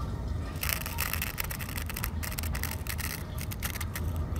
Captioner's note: scraping